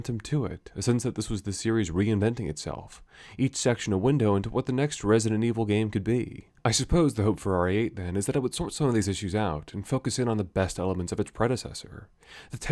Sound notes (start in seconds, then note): none